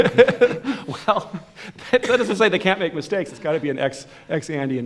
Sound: laughs

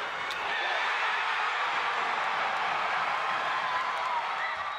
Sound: cheering

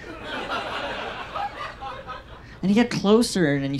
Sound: audience laughs

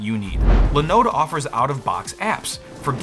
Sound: swoosh

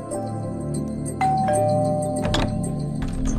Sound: door bell rings

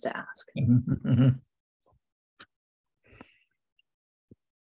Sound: chuckles

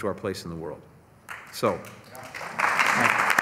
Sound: applause

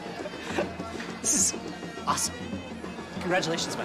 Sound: laughs

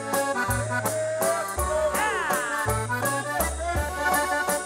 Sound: whooping

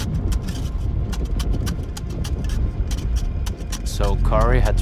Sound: shovel continues thumping

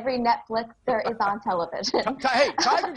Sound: laughing

